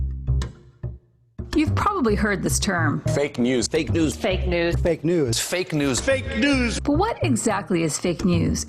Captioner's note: compilation of various news clips saying “fake news”